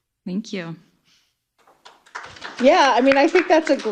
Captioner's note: applause